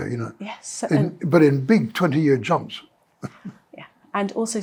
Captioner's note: chuckles